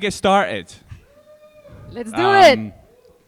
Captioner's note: audience shouting